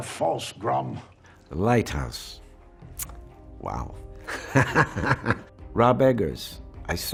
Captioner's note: laughs